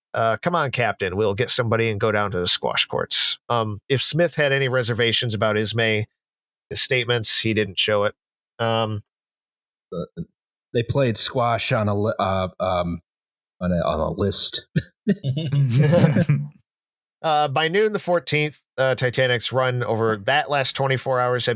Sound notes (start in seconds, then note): 14.7 half-hearted laughter; 16.6 laughs